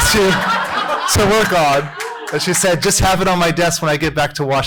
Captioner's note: laughter